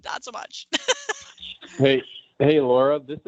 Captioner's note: laughs